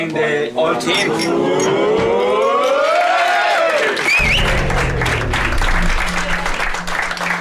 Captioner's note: applauds and whistles